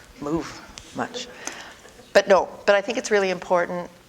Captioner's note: audience: Laughter